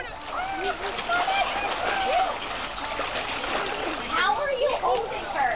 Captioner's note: water splashing